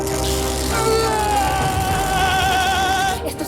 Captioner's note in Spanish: Gritos